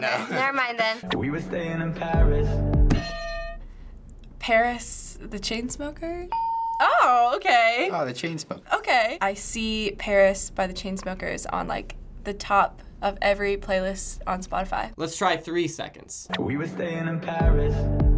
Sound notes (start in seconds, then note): 3.0 hitting bell; 6.4 ding